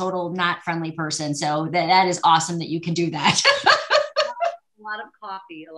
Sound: laughs

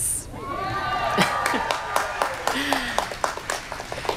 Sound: students cheering

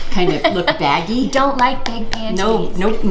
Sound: laughing

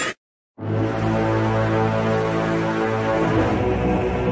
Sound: war Horn

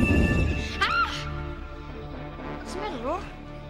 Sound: shrieking

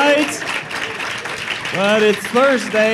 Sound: applause

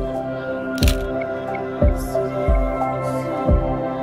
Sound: dramatic music; shutter clicking

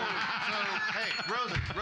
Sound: loudly laughing; bell softly chimes

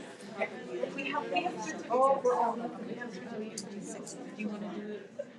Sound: people chattering

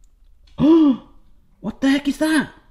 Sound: gasps

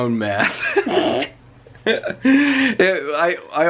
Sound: both chuckling

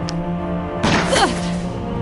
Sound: gunshot

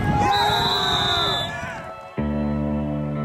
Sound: loud cheering; gentle music

